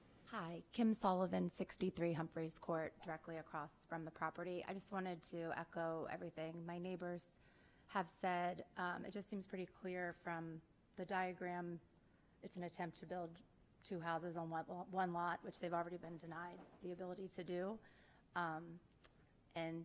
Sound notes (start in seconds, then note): none